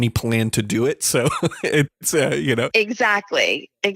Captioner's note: laughs